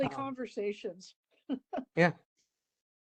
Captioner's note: laugh